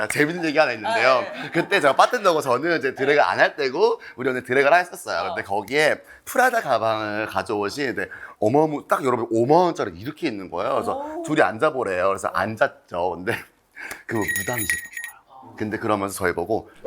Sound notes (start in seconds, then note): 0.2 everyone already laughing